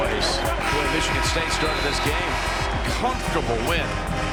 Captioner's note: buzzer